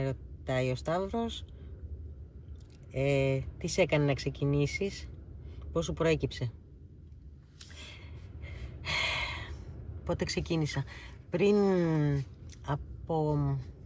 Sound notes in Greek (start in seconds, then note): 8.8 αναστενάζει; 10.4 ξεφυσάει